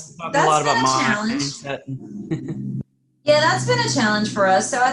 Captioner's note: laughs